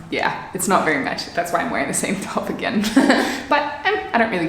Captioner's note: chuckles